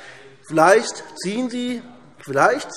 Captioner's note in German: Zurufe SPD